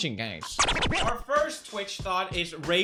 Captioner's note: Equals Three sound effect